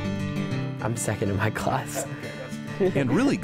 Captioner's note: inspirational acoustic guitar music; laughs